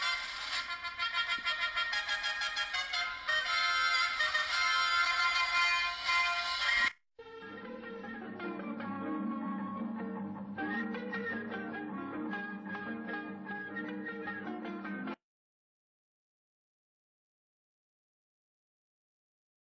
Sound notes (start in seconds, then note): 15.6 silence